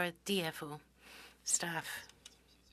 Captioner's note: speaking French